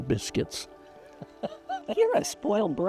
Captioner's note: chuckling